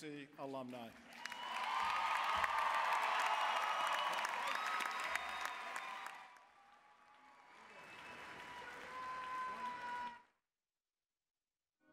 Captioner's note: applause, cheering